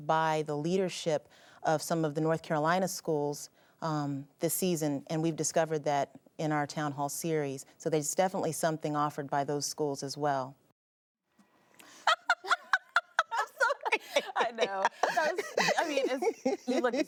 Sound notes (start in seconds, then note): 11.8 laughing